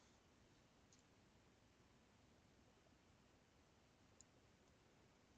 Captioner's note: mouse clicking